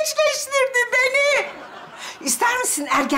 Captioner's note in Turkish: Gülme efekti